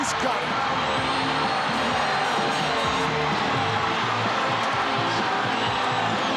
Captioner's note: audience cheering; upbeat rock music